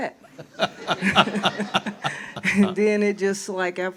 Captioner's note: audiences laughs